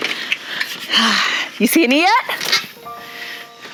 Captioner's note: exhales